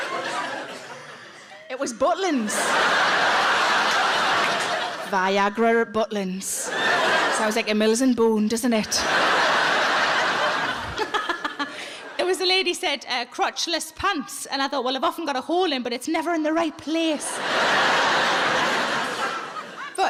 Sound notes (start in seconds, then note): 2.2 audience laughs; 9.0 everyone laughs; 17.2 audience laughs